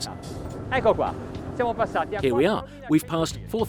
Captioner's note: foreign language